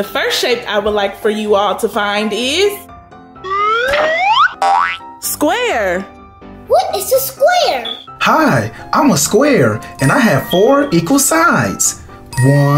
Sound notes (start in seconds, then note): 4.6 bouncing sound